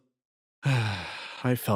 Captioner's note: sigh